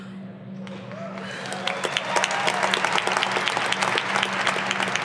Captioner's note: audience applauding